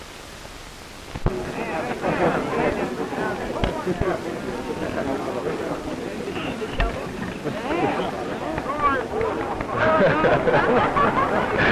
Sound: background conversations, applause

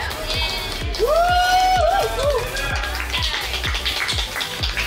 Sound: crowd cheering

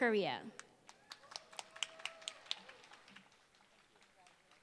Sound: applause

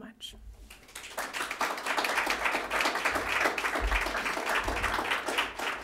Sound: applause

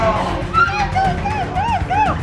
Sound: roars

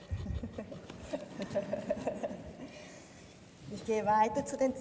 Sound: laughs

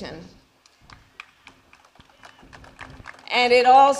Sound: applause

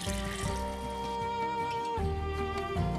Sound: water pouring

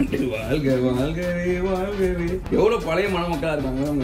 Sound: humming a song

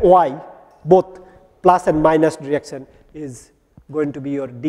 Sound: distortion

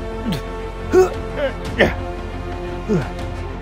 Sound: struggling Sounds

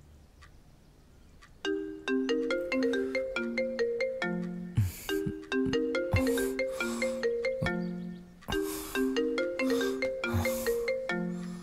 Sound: phone ringing

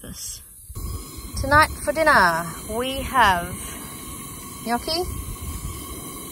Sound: gas stove hisses with flame

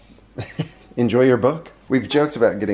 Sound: chuckles

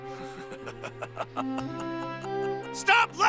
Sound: Vegeta laughs

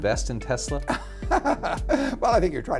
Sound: laughter

